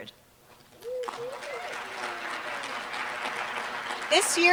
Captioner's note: applause